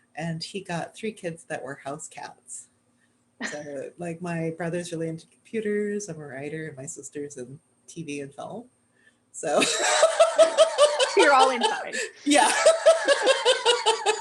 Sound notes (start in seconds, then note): 9.5 laughter